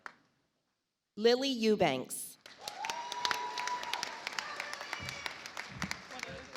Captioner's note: audience applauds